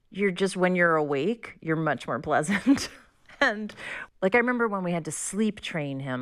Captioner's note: laughter